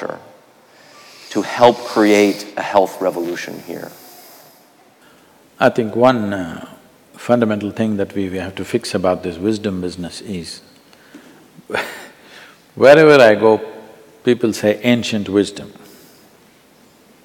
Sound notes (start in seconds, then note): 11.8 laughs